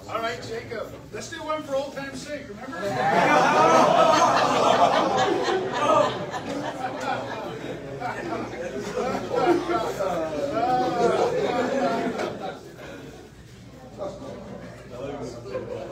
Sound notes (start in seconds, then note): 2.8 audience laughs boisterously; 12.9 indistinct chatter